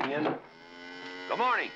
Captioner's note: cow moos